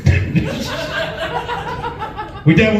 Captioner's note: laughs